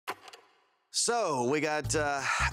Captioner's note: film reel clicks